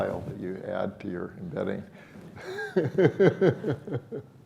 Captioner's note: laughs